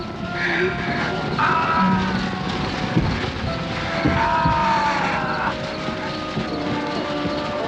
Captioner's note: ghouls screaming